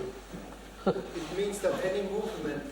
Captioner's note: laughs